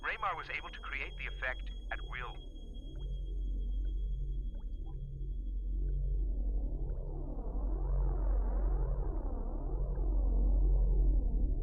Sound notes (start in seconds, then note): 3.5 ominous music; 4.4 water dripping